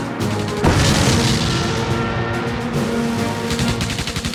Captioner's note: gunshot fire; bomb explodes